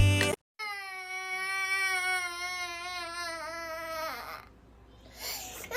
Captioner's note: crying